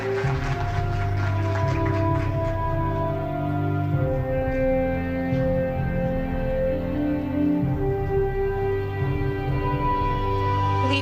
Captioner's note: applause